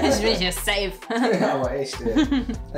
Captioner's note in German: lacht